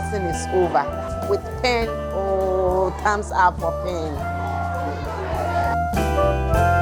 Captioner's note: excitement chant!